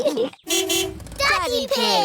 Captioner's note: horn honks